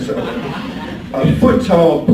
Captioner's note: audience laughs